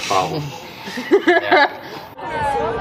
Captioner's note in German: kichern